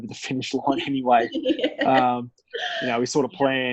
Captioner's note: laughs